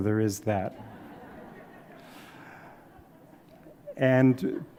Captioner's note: audience laughs